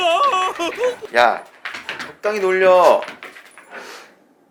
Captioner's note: laughs